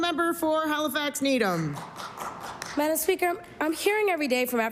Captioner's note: applause